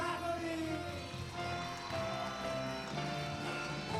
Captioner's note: applause